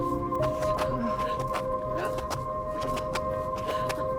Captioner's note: both panting